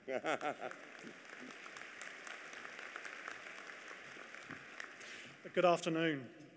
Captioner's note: applause